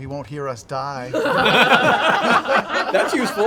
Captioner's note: laughter